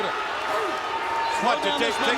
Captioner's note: crowd cheering